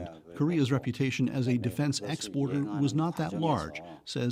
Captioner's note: speaking Alternate Language